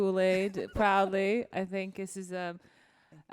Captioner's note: laughs